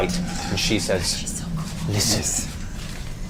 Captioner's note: whispering